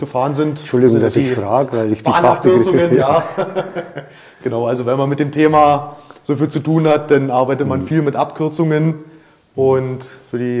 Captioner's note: laughter